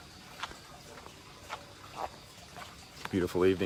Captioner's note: footsteps